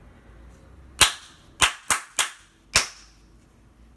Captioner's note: clapping